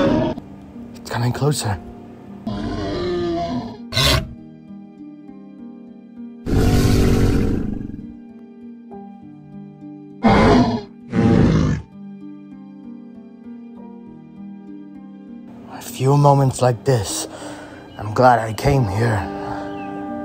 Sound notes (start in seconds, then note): 2.4 triceratops grunting